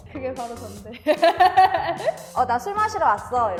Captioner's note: guilty laugh